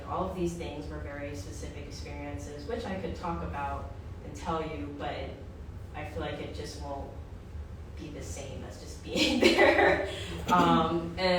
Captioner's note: laughter